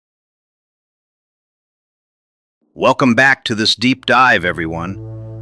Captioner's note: excited